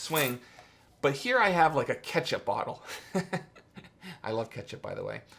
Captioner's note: laughs